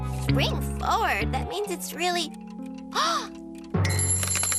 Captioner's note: gasps